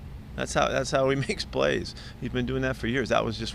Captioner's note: laughing